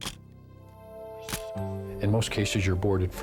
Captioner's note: camera shutter click